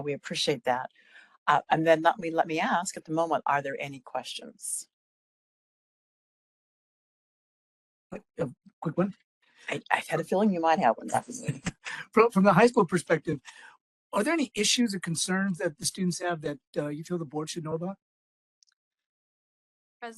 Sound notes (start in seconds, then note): 12.0 laugh